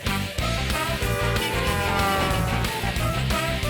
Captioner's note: honking